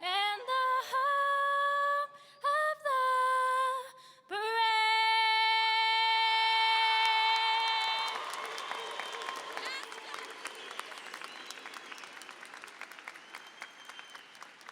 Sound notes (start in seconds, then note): 6.4 applause and cheering